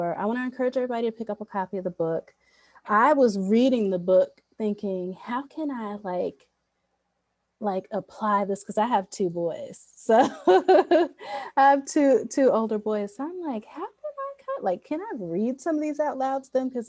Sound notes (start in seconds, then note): 10.3 laughs